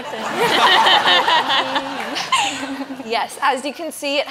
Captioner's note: audience laughs